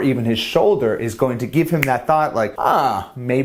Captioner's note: snaps